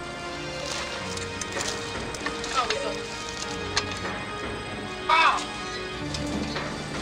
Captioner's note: people groaning